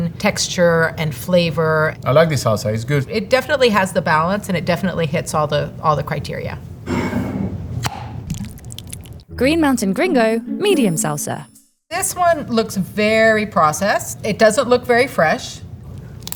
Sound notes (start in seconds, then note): 7.1 jar sliding; 7.1 lid opening; 8.2 salsa pouring